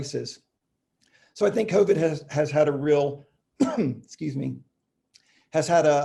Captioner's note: coughing